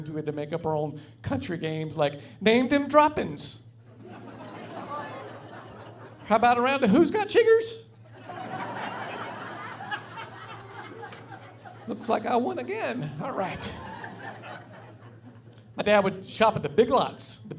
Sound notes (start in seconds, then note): 4.0 laughing; 8.1 laughing